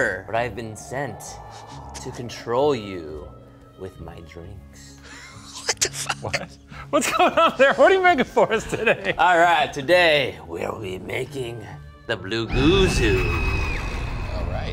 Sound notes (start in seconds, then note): 5.0 laughs; 13.2 creature laughs; 13.2 person screams